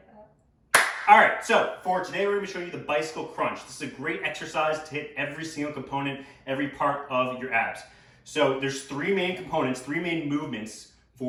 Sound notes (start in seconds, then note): 0.7 clapping